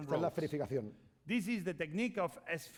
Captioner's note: speaking spanish